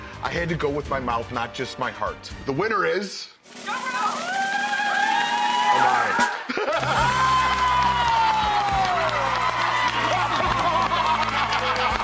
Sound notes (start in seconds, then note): 3.4 drum roll plays; 7.0 cheering; 9.1 clapping